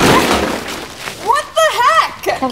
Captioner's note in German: Mülltonne klappert